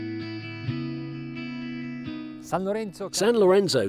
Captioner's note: foreign language